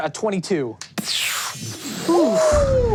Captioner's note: whooshing